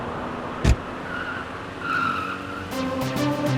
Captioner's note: body thudding; door opens; tires screeching; door closes; intense electronic music